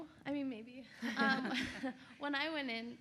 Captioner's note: laughs; panel laughs